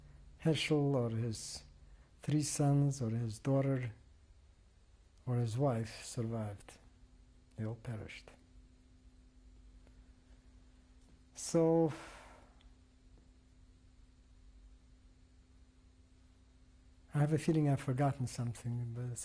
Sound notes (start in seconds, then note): 8.2 pauses for 3 seconds